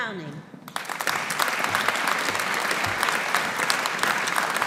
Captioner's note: audience applauding